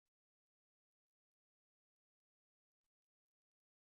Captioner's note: none